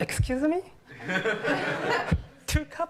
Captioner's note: laughter